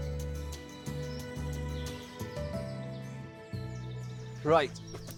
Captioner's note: birds chirping